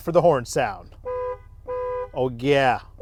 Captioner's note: horn honking